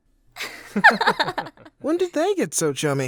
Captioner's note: laughing